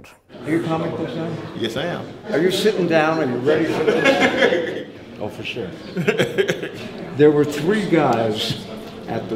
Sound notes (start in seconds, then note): 5.8 laughter